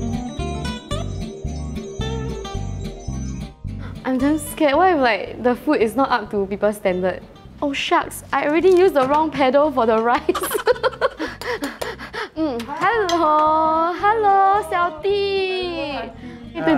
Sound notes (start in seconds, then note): 11.0 hyperventilates